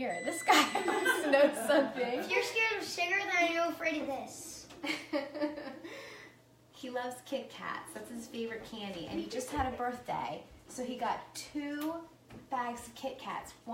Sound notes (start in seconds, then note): 0.0 beeping; 4.8 laughing